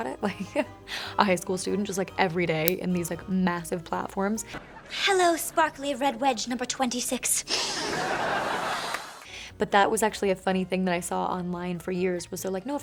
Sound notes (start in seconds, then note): 7.5 loud sniff